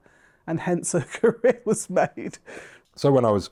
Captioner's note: chuckles